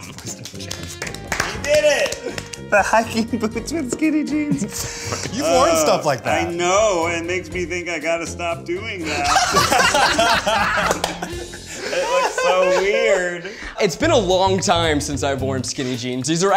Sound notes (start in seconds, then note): 0.0 group claps; 4.3 laughs; 9.0 group laughs